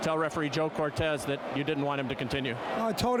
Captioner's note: applause